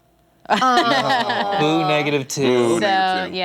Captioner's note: groaning